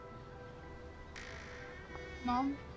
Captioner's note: door creaking